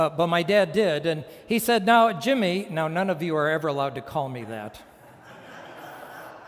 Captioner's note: laughter